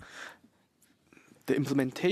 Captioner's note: speaking French